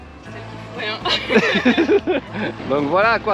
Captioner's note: laughing